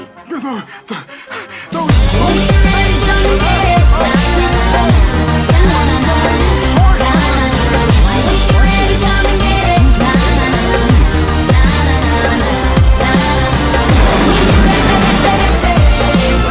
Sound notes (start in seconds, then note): 13.8 explosion